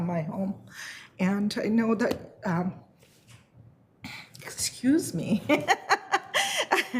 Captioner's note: laughs